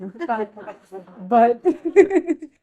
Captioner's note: audience laughing